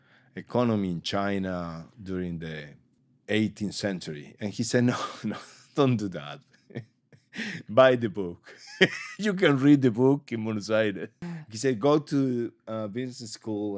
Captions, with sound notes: Economy in China during the 18th Century. And he said, “No, no. Don't do that. [LAUGHS] Buy the book. You can read the book in Buenos Aires.” He said, “Go to the business school